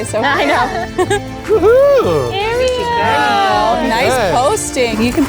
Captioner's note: laughs; cheers